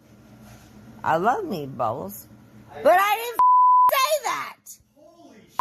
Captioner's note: beep